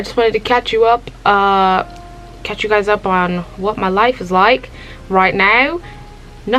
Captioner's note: british Accent